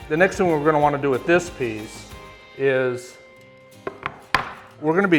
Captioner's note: wood slapping table